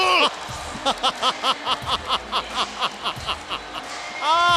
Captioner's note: laugh